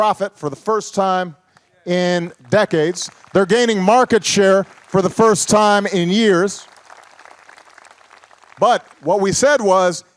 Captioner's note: applause